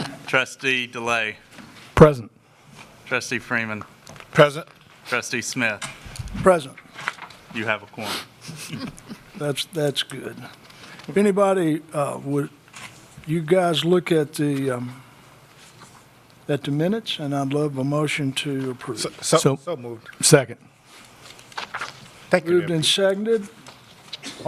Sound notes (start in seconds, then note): 10.3 with sarcasm